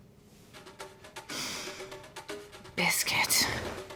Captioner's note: sniffing